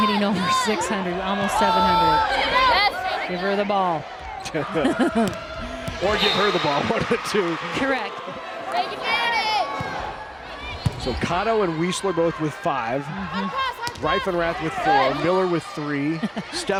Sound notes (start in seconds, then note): 4.6 chuckling